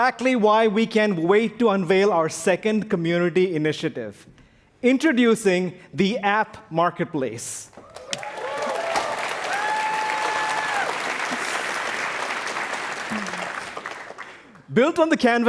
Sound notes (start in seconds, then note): 2.2 applause